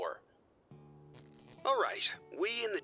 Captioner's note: wires sparking